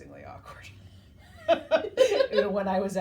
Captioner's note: both laughing